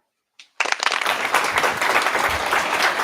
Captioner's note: applause